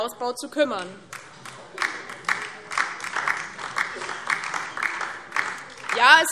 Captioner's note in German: Beifall DIE LINKE